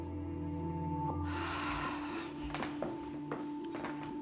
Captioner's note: sighs